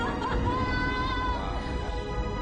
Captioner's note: laughs